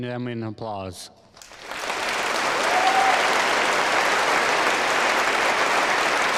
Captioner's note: audience applauding; audience cheering